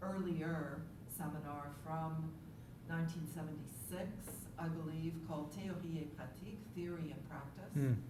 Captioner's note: french